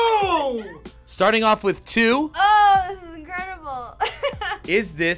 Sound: laughs

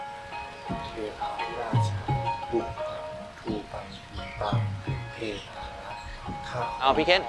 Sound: chanting

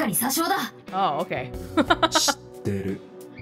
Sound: chuckles

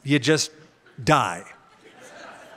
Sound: laughter

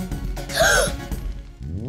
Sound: gasps

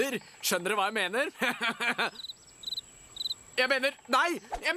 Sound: chuckles

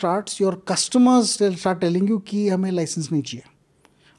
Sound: speaks in Hindi

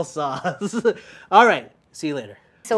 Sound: laughing

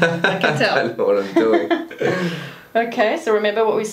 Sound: laughs

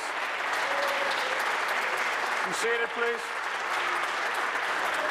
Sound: applause

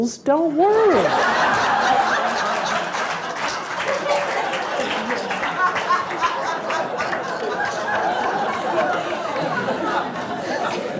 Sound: laughter

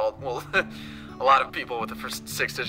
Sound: chuckles

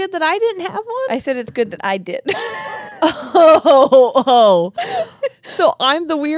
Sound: laugh

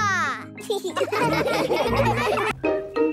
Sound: laughing

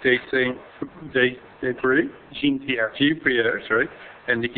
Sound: mumbling

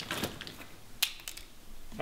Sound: clatters

